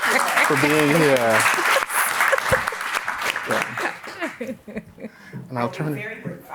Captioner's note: applause